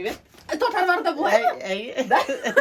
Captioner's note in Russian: смех